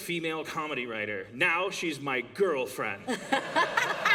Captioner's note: laughter